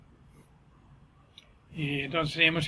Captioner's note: silence